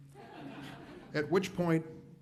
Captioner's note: audience laughs